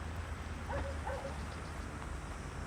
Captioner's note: dog barks